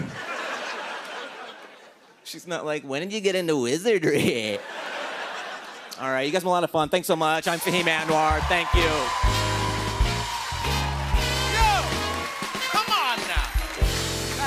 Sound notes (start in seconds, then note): 0.0 laughter; 4.1 laughter; 7.5 cheers and applause